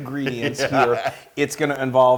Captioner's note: laugh